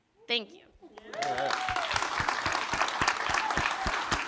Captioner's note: applause